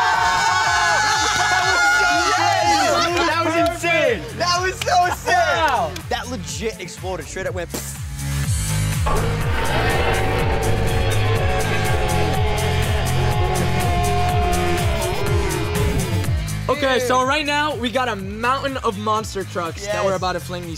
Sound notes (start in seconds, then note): 0.0 screaming and cheering; 9.1 slowed glass shattering and screaming